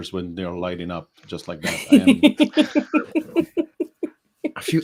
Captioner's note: laughs